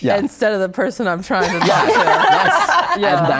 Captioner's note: guests laugh